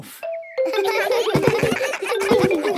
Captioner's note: giggles